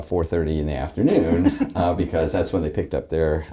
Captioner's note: laughing